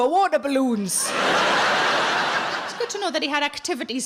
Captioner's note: audience laughs